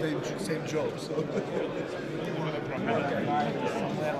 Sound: laughing

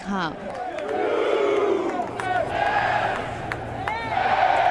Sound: cheers

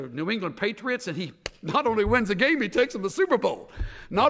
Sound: smacks hands together

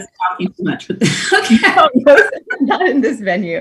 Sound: laughs loudly

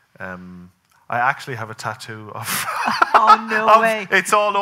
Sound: laughing

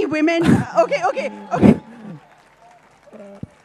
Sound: applause

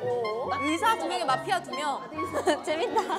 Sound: murmuring

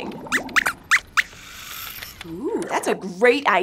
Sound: squeaks squeaks

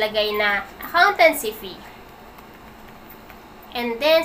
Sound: typing

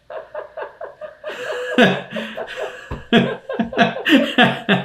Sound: both laughing

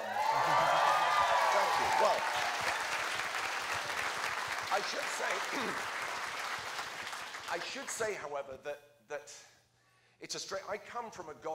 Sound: applause

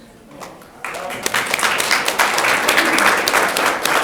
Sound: audience clapping

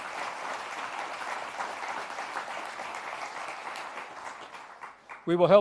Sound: applause

